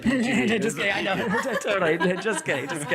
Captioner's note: all laughing